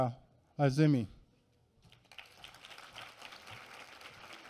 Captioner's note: applause